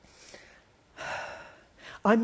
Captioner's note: sighs